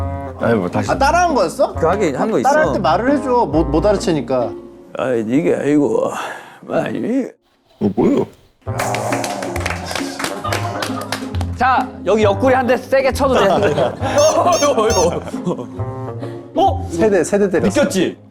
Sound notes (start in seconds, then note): 14.9 boink